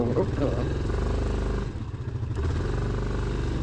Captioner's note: engine revs louder